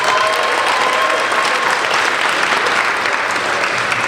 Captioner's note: applauding